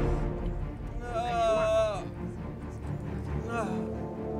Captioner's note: soldier moaning